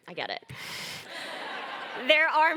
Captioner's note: laughter